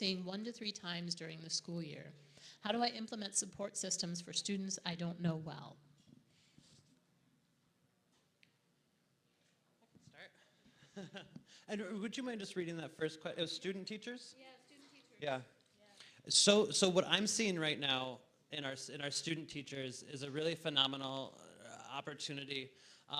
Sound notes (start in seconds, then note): 10.9 laughs